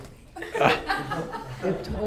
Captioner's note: audience laughs